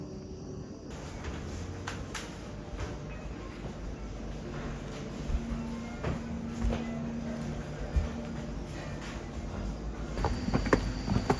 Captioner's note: sliding doors